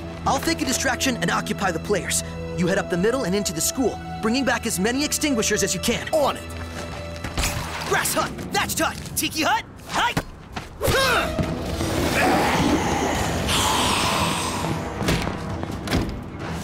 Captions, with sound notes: I'll fake a distraction and occupy the players. You head up the middle and into the school, bringing back as many extinguishers as you can. On it. Grass hut, thatched hut, tiki hut, hut, hike. [GRUNTS] [FIGHTING IMPACTS AND GRUNTING]